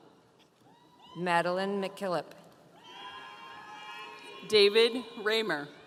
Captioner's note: audience cheering